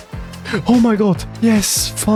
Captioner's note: gasp